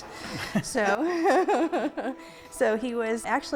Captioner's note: laughter